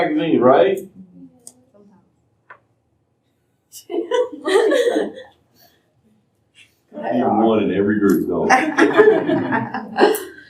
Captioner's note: laughter